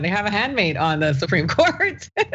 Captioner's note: laugh